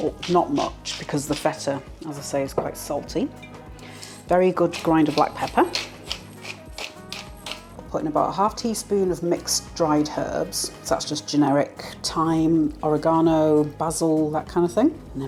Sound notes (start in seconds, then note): 3.9 pepper mill grinding; 4.5 salt mill grinding